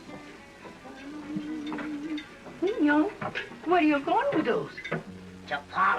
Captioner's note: humming